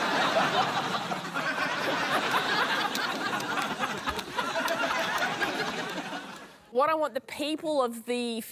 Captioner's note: laughter